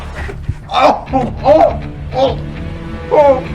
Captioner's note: Patrick groans; Patrick sobs